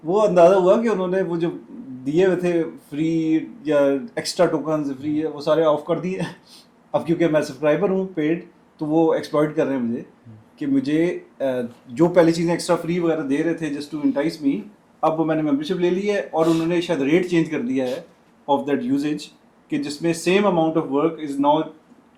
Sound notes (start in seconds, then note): 6.2 nasal noises